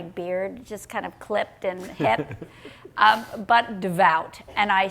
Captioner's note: laughing